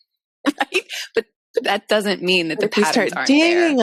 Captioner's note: chuckles